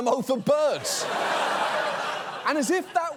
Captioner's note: audience laughs